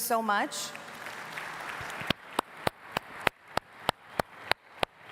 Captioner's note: audience applauding